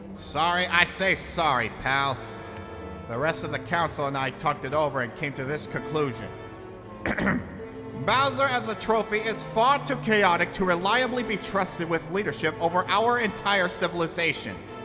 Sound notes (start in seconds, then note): 7.0 clears throat